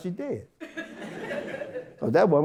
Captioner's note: audience Laughter